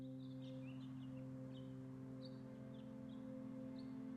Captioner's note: birds singing